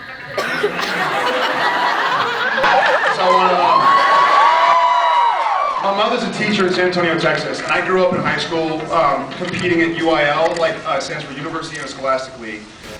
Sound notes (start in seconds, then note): 0.0 laughs; 3.4 laughs, cheers; 4.2 cheers